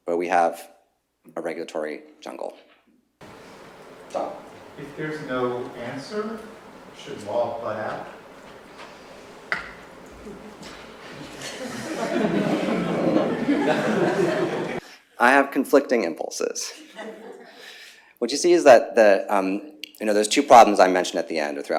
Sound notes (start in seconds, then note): 11.8 laughter